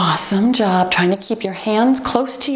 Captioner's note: timer beeps